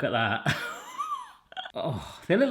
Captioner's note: laughs